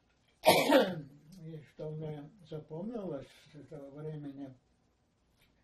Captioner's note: coughing